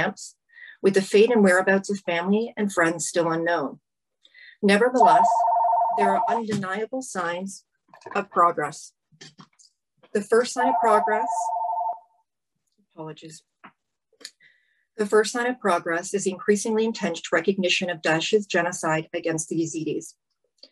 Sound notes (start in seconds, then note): 10.6 phone rings